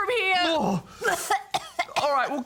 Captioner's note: coughs